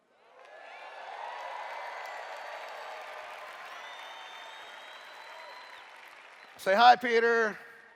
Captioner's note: cheers